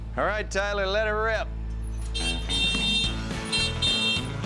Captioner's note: horn beeping